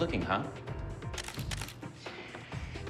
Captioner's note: camera shutter clicking